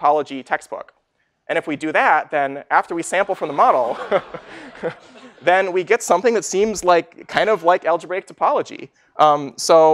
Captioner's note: 웃음